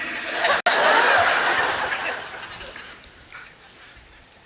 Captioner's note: audience laughs